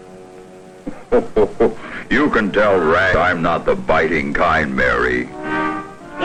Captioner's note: chuckling